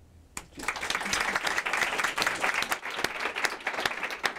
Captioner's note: applause